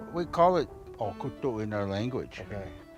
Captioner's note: speaks foreign language